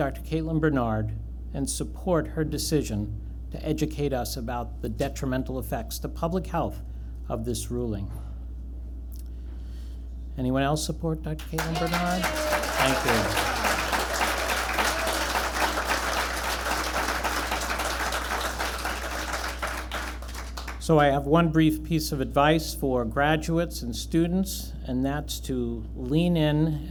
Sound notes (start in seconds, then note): 12.0 applause and cheers; 13.9 applause and cheers continue